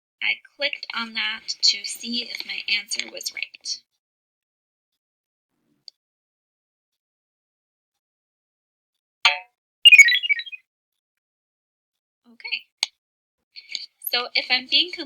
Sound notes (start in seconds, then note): 9.8 computer noise